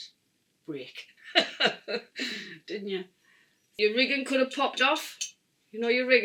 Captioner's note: laughs